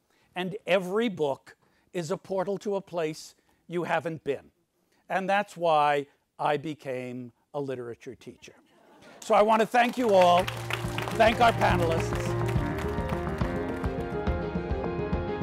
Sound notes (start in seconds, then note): 9.2 audience applauds; 12.4 dramatic music